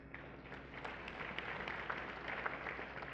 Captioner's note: applause